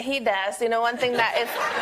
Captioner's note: laughter